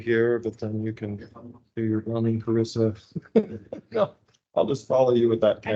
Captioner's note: laughs